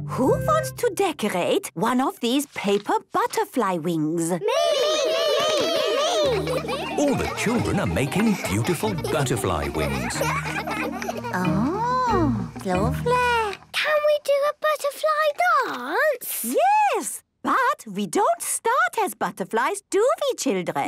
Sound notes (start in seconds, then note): 4.4 all calling out